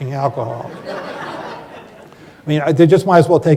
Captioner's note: laughter